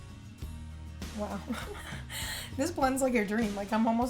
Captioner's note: chuckles